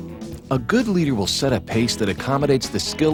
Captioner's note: voiceover